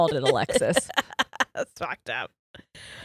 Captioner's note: laughs